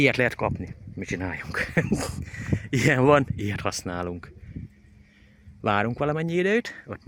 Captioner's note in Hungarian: nevetés